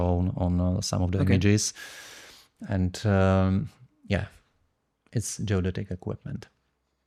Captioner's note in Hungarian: szippant